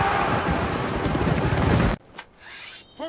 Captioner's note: crowd cheering